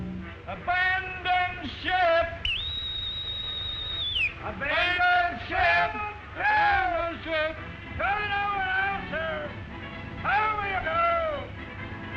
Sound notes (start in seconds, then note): 0.8 voiceover; 2.4 loud whistle; 8.1 man shouting